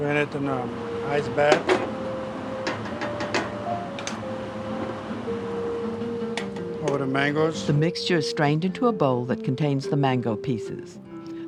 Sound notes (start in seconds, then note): 8.1 voiceover